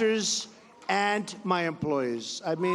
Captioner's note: cheers